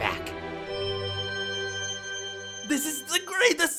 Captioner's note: shimmer